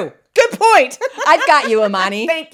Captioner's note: laughs